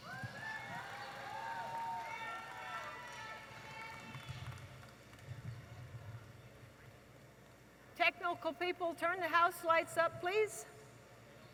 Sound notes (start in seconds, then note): 0.0 audience applauding and cheering